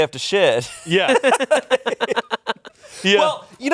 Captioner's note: laughs